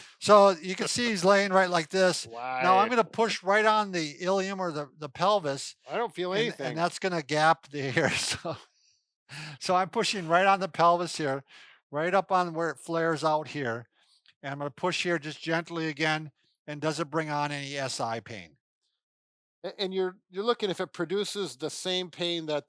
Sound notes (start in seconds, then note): 8.9 laughs